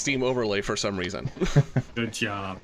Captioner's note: chuckles